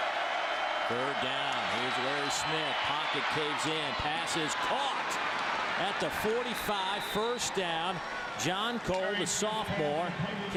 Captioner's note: crowd noise